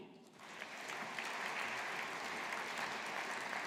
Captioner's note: audience applauding